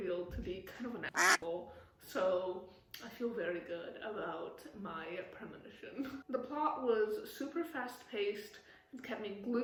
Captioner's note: quack